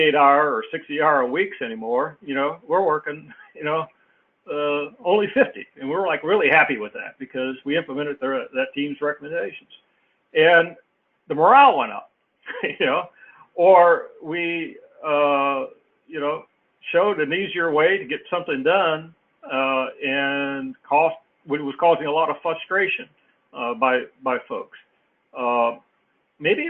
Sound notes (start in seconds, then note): 12.5 laugh